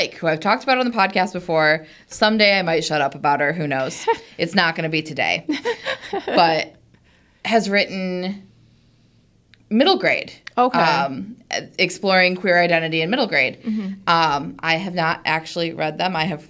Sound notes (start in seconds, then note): 5.5 group laughs